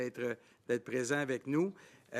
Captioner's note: speaking French